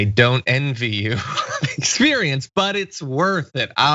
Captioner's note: laugh